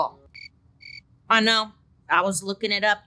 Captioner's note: crickets chirp